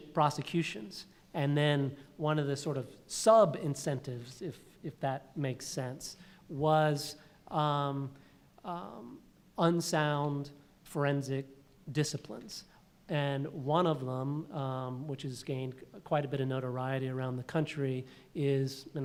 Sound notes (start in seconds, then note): none